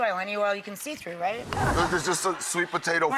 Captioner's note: wooshes